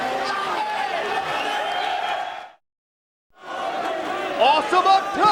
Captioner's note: crowd cheering